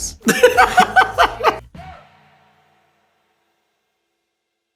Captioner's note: Kieran laughs